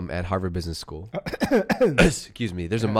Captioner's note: coughing